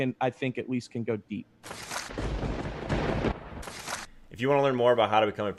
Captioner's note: lightning crack and thunder boom